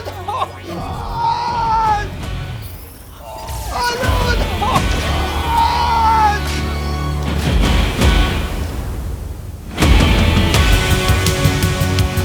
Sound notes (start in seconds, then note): 0.0 man screaming; 5.2 laser zapping; 9.2 dramatic music